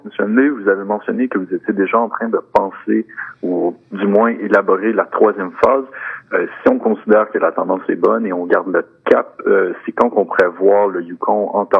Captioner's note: speaking French